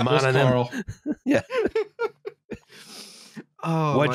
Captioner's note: laughter